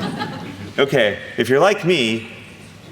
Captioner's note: audience laughing